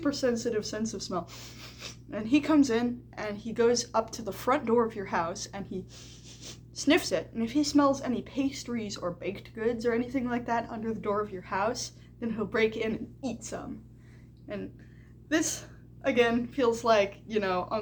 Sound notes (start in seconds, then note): 1.6 sniffffff; 5.8 sniffsniffsniffsniff